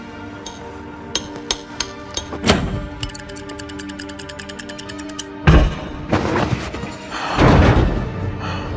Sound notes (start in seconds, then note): 3.0 clicking; 3.0 dull thud; 5.9 chains rattling; 5.9 metal thudding